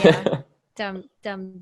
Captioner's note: laughs